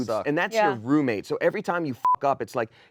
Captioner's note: beep